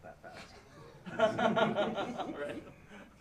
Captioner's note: laughter